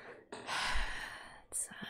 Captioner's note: sighs